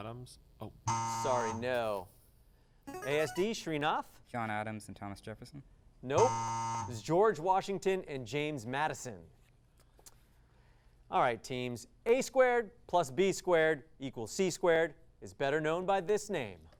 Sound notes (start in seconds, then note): 0.9 buzzing sound; 0.9 device sound; 6.2 buzzing sound